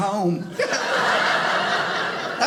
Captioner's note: audience laughing